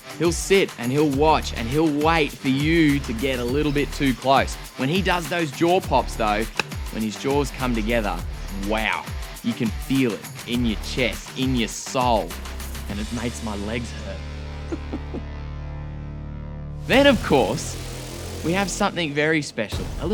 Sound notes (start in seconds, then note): 14.4 laughing